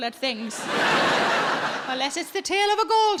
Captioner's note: audience laughs